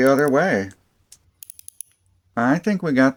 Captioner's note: ratchet sounds